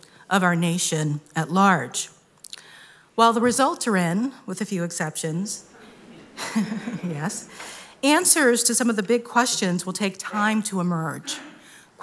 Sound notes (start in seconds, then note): 5.8 chuckling